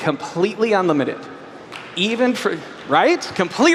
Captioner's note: applause